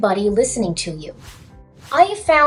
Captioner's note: swoosh swoosh